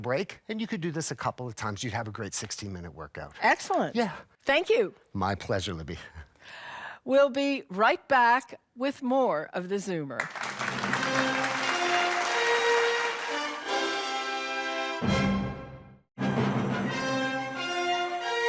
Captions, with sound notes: You'd have a great 16 minute workout. - Excellent. - Yeah. - Thank you. - My pleasure, Libby. - We'll be right back with more of The Zoomer. [audience applauding] [theatrical music] [theatrical music]